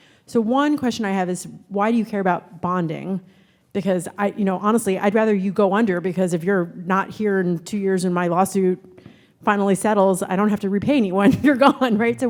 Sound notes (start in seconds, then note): none